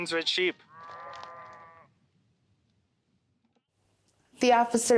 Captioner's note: sheep bleating